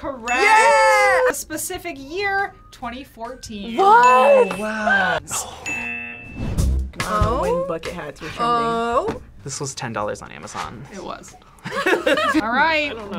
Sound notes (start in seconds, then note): 5.9 buzzer; 11.6 laughs